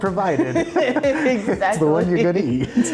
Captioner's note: both laughing